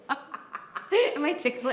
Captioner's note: laughing